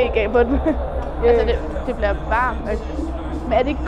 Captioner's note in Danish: Stemmerne toner ud, lyden forvrænges